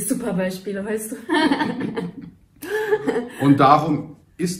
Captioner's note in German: beide lachen